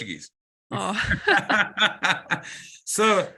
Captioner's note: laugh